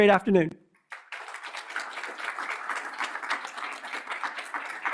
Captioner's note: applause